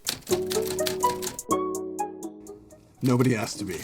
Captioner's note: uplifting music; typewriter clacking